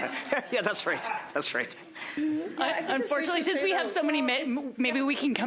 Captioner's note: laughter